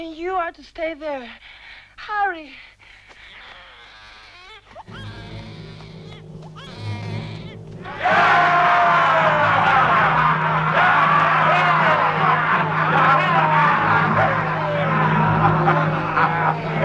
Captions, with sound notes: And you are to stay there. Hurry! (Baby crying) (Men cheering) (Tense music)